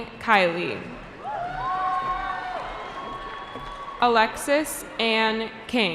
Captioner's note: cheering